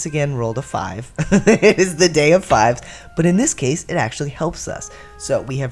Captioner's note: laugh